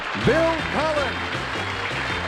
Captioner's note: applause